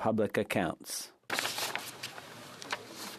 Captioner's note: speaking French